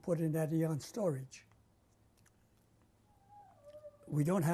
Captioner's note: pauses for 3 seconds